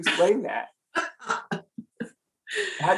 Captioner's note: laughs